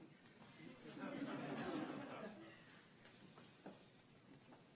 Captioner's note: laughter